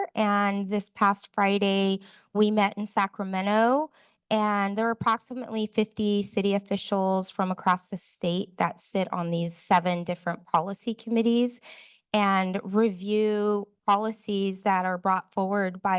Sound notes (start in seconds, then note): none